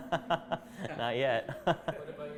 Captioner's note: chuckling